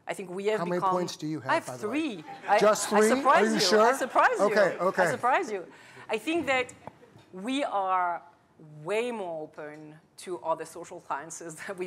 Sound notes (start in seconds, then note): 3.0 laughter